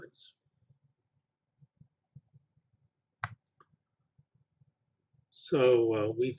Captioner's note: pause